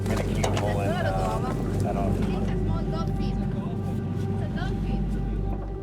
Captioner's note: crew members chattering